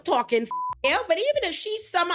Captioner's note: beep